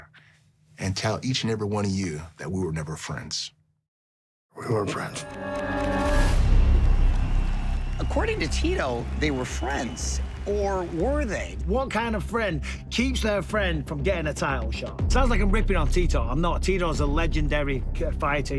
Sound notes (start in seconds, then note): 5.5 dramatic music; 6.5 crowd cheering